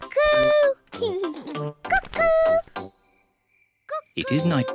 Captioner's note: laughs